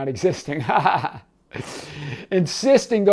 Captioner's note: laughing